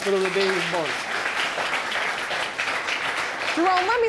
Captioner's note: audience applauds